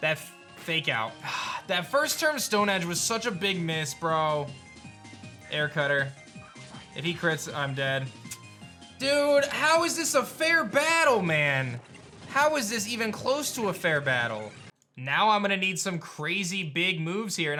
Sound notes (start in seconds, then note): 1.2 sighs